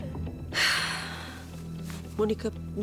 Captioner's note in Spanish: suspiros